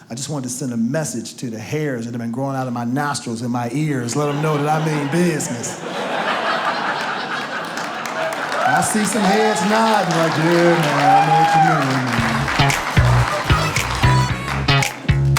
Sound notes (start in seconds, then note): 6.3 audience laughs